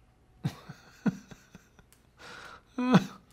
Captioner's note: laughs